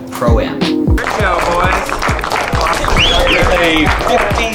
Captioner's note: clapping